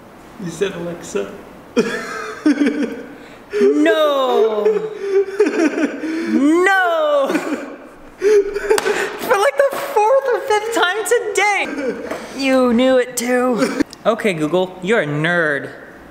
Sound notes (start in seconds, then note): 1.7 laughs; 3.8 continues laughing; 6.5 continues laughing; 8.6 slaps knee